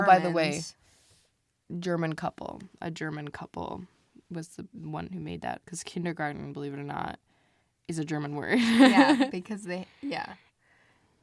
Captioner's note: laughs